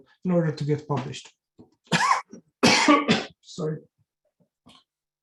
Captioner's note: coughs